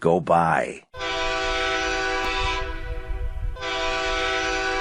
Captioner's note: horn blasts